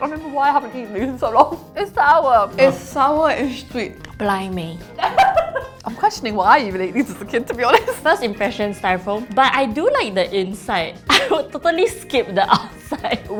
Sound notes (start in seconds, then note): 5.0 laughs; 11.0 laughs